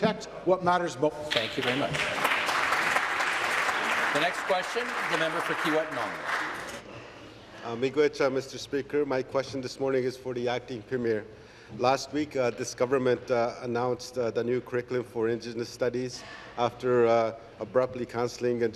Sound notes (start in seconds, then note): 6.3 applause